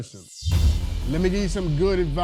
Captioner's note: logo whooshing